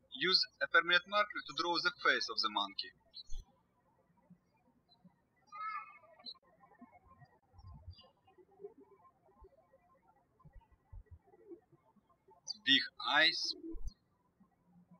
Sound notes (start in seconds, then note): 3.3 birds chirping